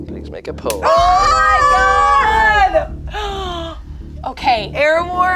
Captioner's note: group screams